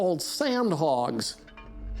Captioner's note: clanging